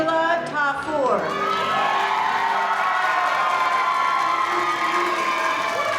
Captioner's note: crowd cheering